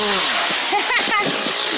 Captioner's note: laughter